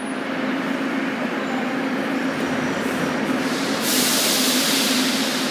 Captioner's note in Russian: открытие дверей